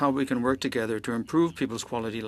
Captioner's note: speaking French